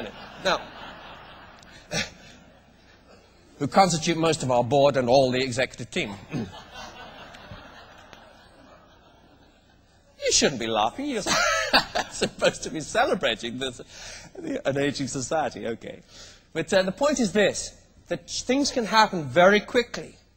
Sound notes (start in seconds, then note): 10.5 laughs